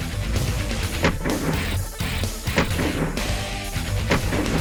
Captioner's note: gun fires